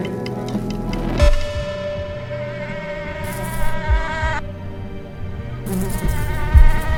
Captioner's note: foreboding music; mosquito buzzing